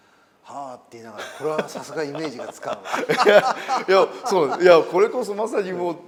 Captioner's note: laugh